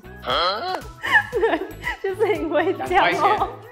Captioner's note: laughs